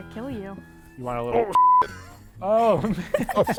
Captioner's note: beeps; people laugh